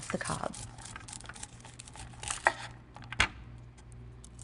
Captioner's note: knife scraping against corn